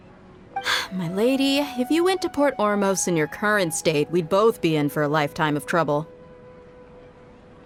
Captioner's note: sigh